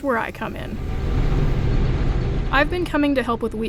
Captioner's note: combine whirring